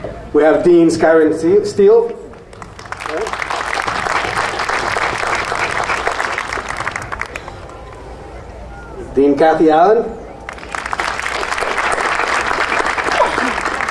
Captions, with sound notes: We have Deans Karen Steel. (audience applauding) Dean Kathy Allen.